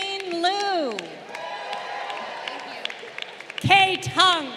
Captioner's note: crowd cheering